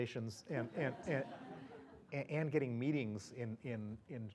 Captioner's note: laugh